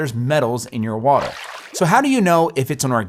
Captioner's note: water splashing